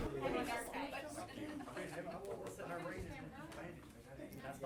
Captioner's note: people chattering